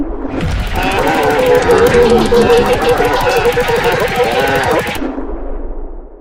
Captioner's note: mean laughter; loser whimpering